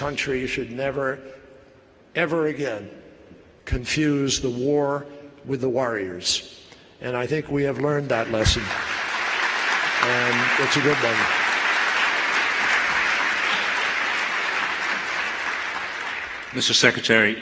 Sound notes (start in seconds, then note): 14.4 applause